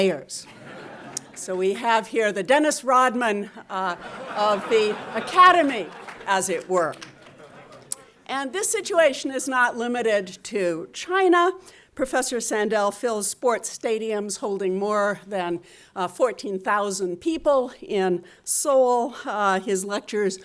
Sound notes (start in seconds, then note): 0.5 audience laughing; 3.9 audience laughing; 4.7 audience members clapping